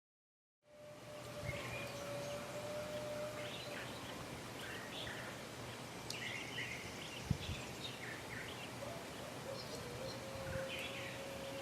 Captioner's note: birds chirping